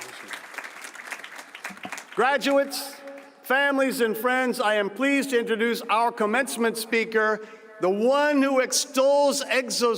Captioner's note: cheers and applause